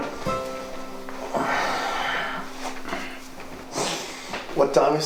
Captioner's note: Ramon sighing